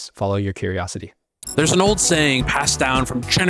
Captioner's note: transition glitching